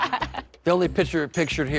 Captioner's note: laughter